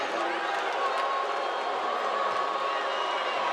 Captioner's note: crowd booing